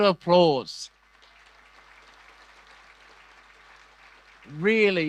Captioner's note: audience applause